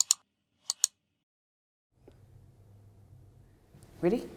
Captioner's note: keyboard clicking